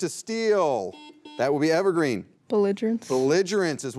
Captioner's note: beep